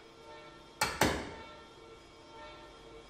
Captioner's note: distant whirring